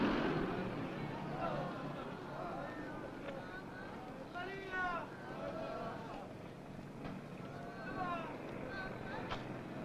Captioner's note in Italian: gemiti di dolore e grida